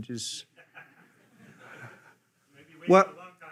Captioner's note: attendees laughing